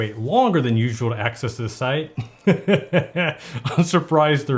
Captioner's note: laughs